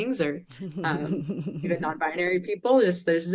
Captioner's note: chuckles